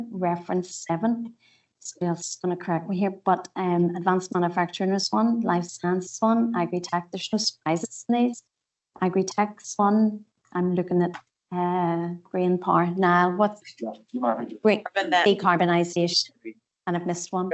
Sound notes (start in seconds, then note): 1.9 audio distorts 57.28; 7.7 audio distorts 57.33